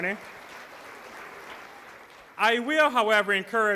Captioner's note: applause